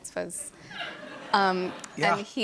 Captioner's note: laughter